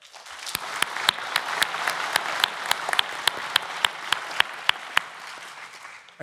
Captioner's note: applause